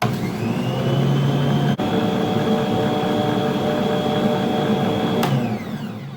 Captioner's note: mixer noises